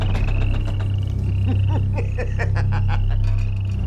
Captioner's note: sinister laugh